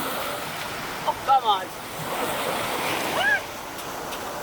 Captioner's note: shrieks